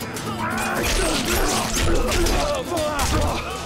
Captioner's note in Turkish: İnilti sesi